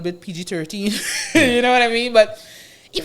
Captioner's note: laughs